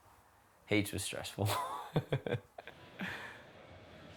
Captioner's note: laughs